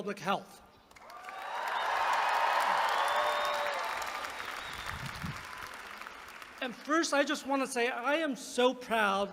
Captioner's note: applause